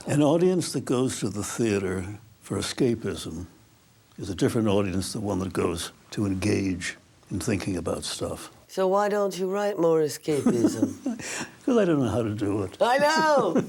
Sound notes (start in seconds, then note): 12.8 Albee, laughs